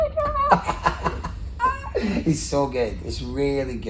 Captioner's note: laughing